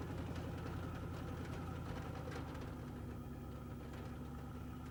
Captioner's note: engines rumbling